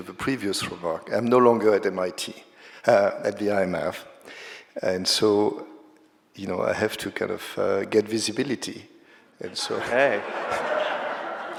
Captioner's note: laughter